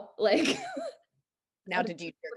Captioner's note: laughs